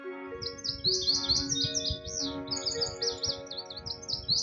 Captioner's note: bird calls and songs